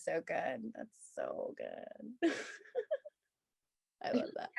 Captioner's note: laughs